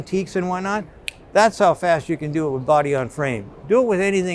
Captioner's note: snaps